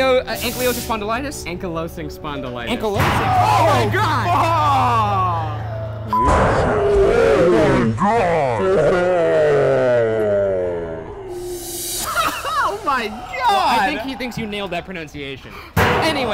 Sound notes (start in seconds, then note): 3.7 screaming; 12.0 laughing